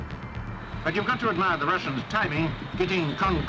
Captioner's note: radio voice